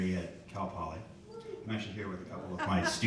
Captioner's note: people laughing